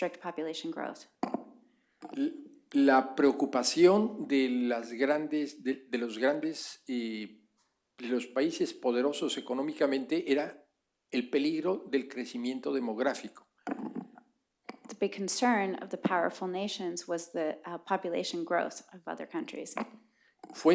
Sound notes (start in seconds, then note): 8.2 speaking spanish